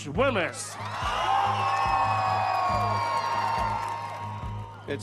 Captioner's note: audience cheers